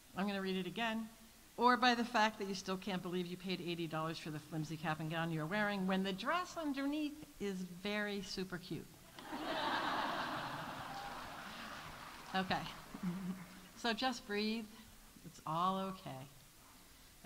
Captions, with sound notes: I'm gonna read it again. Or by the fact that you still can't believe you paid $80 for the flimsy cap and gown you're wearing when the dress on underneath is very super cute. -(audience laughs) -(audience applauding) Okay. So just breathe, it's all okay.